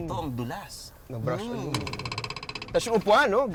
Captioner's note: grunts